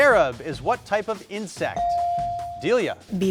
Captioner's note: buzzer dinging